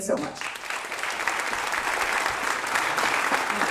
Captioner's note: applause